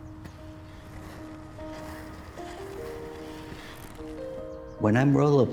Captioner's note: soft music; roller skates rattling